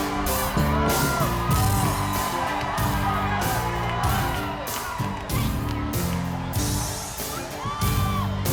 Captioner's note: applause